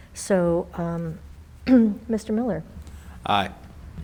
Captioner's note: clears throat